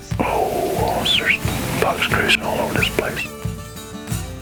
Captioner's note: whispering